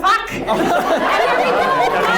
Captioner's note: audience laughs